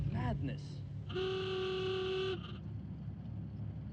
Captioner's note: horn honks